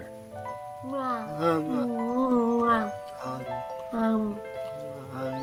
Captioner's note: both smooching